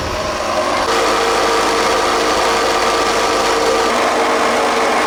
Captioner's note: motor running